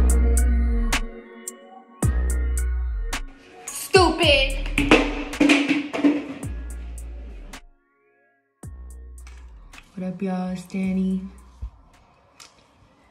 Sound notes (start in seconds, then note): 4.8 drops gallon